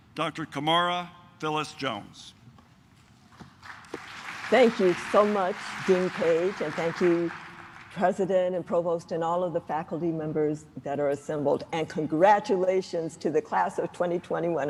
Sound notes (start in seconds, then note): 3.4 claps